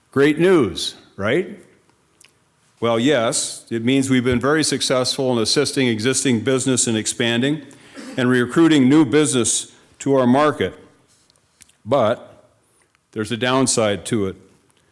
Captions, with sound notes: Great news, right? Well, yes, it means we've been very successful in assisting existing business and expanding, (attendee coughing) and recruiting new business to our market. But there's a downside to it.